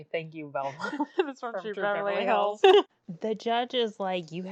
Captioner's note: laughs